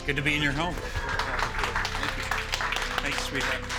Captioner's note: applause